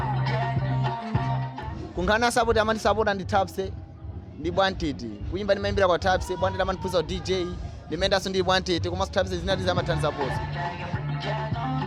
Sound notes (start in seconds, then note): 1.8 speaking foreign language